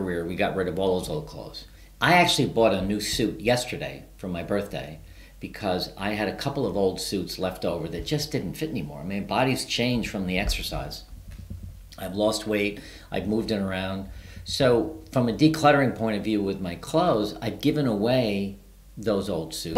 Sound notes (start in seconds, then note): none